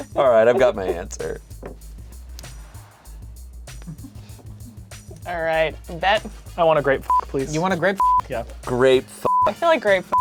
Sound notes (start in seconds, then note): 0.0 laughing; 1.8 gentle upbeat music; 8.0 beep